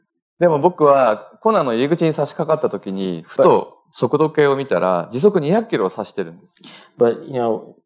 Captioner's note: speaking japanese